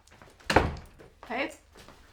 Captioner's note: door opens